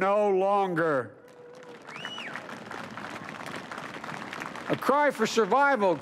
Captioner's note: applause